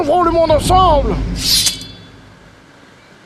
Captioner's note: sound of a sword being drawn